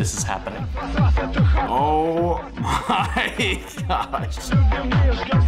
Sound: chuckles

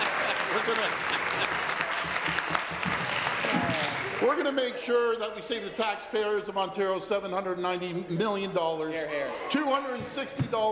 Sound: applause

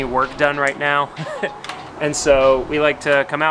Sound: laughs

